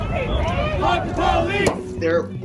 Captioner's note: crowd